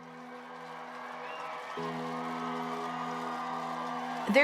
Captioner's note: crowd cheering